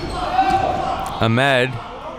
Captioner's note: spectators shouting